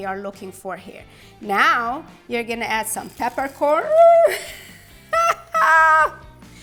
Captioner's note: laughs